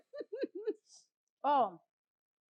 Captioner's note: laughing